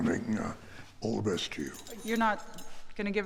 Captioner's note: keys jingling